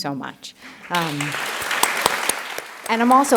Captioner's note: applause